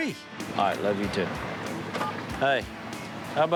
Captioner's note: phone beeps